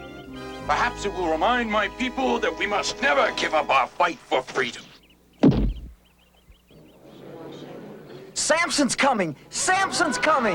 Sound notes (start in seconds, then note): 5.4 gate thuds firmly into ground